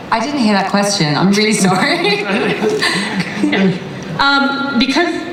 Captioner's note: laughs